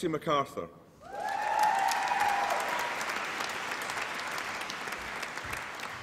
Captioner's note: applause and cheering